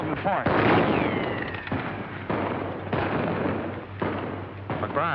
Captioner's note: gunshots